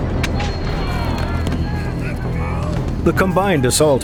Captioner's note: soldiers yelling